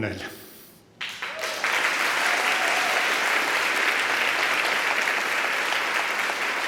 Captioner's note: applause and cheering